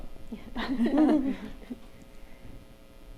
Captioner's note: chuckling